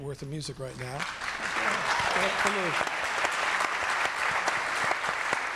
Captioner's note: audience clapping